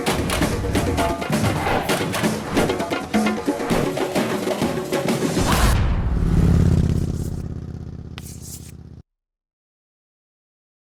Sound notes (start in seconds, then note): 5.4 motorcycle rumbling